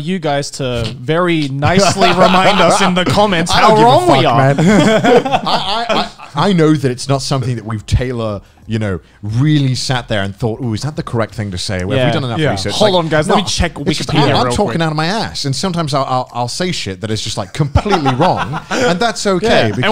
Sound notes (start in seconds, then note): 4.7 men laughing